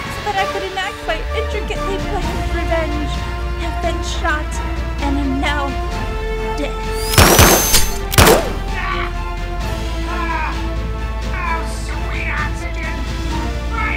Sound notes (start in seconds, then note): 7.0 gunshots firing; 7.3 sonic whirring; 8.6 Dr. Robotnik screaming